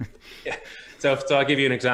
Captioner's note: laughing